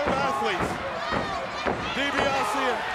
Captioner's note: foot stomping